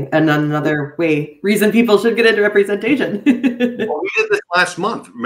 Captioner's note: giggling